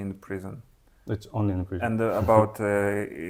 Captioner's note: laughs